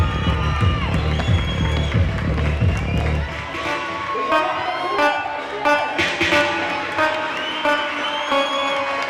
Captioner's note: cheers and applause